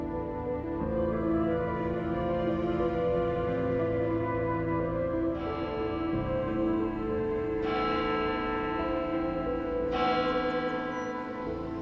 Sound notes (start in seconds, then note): 5.3 church bell chiming